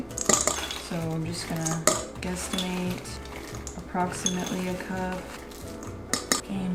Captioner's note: none